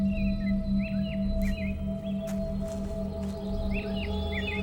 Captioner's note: birds chirping